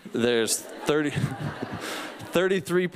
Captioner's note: laughter